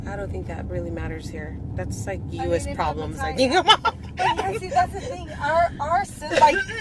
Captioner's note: laughs